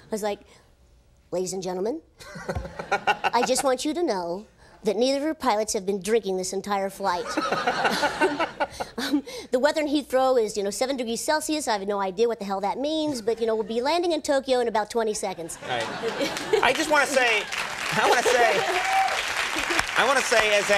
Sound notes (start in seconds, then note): 2.2 Conan laughs; 7.2 audience laughs; 7.2 Conan laughs; 17.5 audience applauds